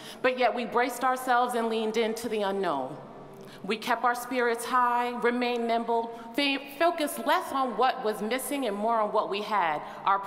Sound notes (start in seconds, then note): none